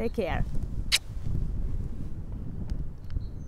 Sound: kissing sound

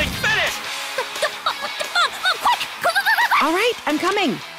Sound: stammering

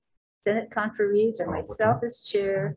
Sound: group chattering

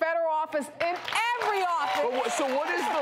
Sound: audience cheering

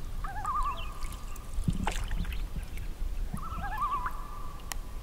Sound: loon calls

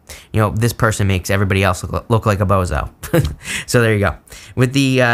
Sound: laughs

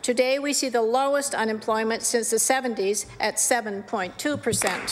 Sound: applause

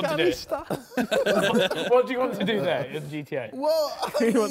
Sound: men laughing

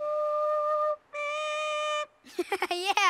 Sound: squeaking; laughing

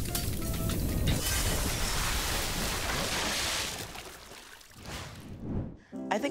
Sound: glass shatters; paint whooshes

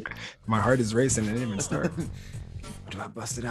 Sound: laugh

